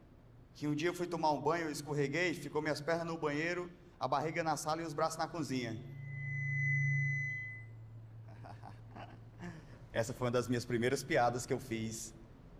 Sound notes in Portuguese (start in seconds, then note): 5.4 microfonia; 8.2 risada